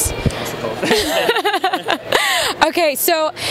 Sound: laughs

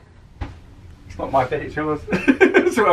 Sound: laughs

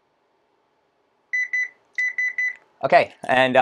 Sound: beeping

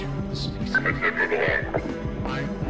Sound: Combine radio chatter

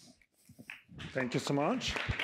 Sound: applause

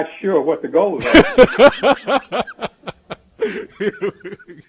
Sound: laughs

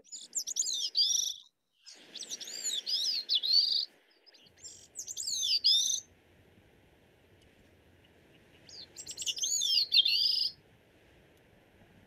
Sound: bird song

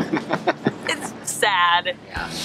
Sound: both laughing

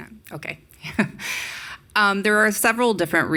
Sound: woman laughing

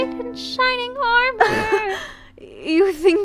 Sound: laugh

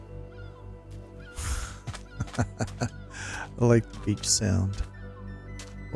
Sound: lauighs

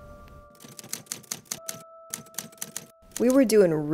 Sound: typewriter clacks

